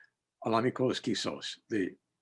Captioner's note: speaking in Abenaki